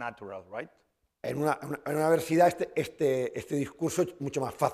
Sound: speaking spanish

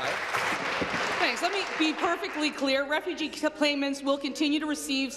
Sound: applause

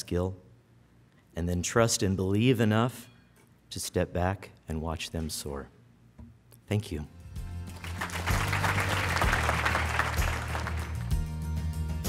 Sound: applause

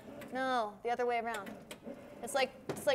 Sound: board humming; board humming

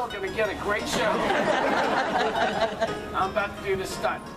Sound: audience Laughs

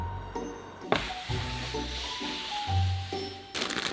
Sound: board sliding

